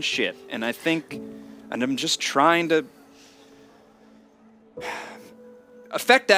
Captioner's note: he sighs